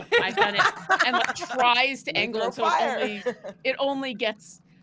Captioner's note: all laughing